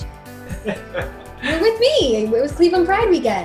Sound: laughing

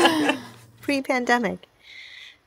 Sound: speakers laughing

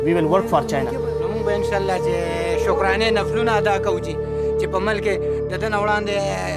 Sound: speaks in foreign language

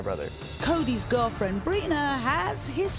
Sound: voiceover

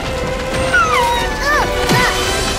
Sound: whimpering

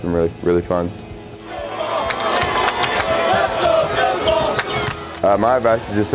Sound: crowd cheering

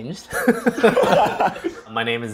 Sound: laughs

